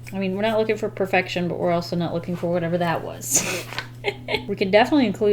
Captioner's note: laughs